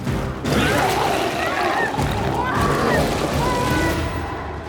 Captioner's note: biker screams